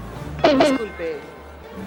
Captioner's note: flat bonk